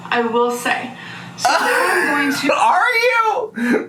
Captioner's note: laughing